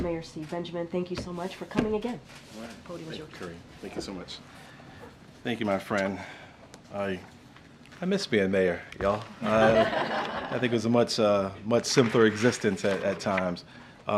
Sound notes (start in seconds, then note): 9.4 laughter